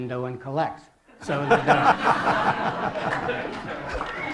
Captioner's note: laughter